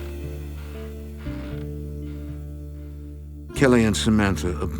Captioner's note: chair creaking